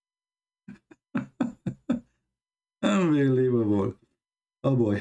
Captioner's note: Ketawa